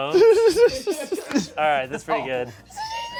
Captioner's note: laughs